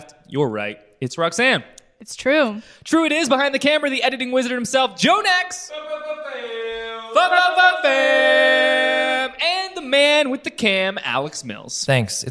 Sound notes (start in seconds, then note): 6.2 yelling